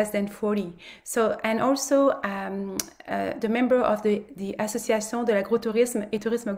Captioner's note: speaks French